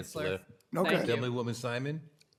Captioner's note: ringing bell